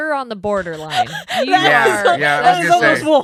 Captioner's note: laughing